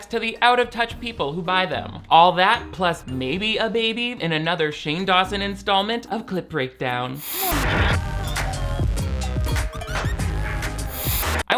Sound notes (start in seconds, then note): 7.2 static buzzing; 8.6 funky music